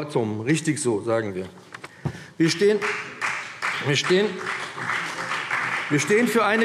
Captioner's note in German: Beifall BÜNDNIS 90/DIE GRÜNEN und vereinzelt CDU